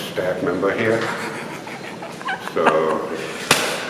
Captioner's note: laughing